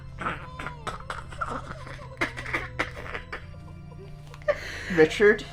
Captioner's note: bursts out in laughter and then tries to calm down